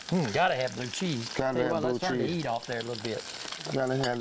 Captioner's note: laughs